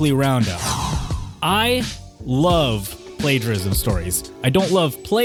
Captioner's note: laugh -- face in hand